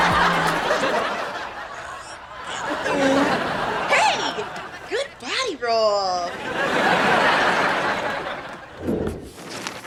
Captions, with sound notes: Hey, good body roll. (audience laughter)